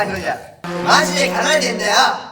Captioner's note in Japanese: バイク通過音